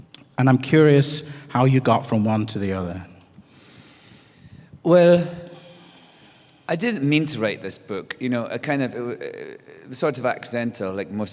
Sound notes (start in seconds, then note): none